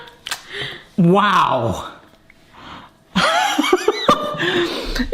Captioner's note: laughs